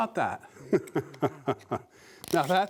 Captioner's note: laughs